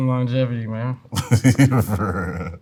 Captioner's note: laughs